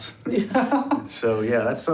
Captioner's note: chuckles